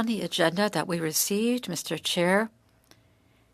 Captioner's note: speaking french